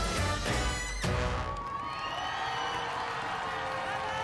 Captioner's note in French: exclamations de la foule